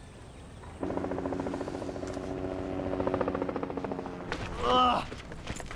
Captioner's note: helicopter blades whirring